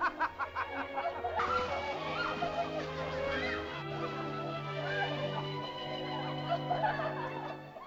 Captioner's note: euphoric laughter; sentimental music; excited laughter; sentimental music; leaves rustle; excited laughter; sentimental music